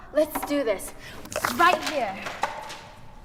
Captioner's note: papers falling off